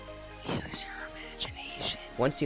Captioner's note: le god whispers into ur ear